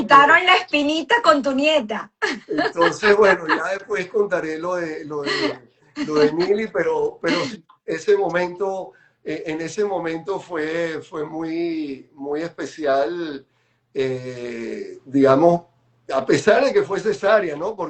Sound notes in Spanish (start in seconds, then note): 2.2 risas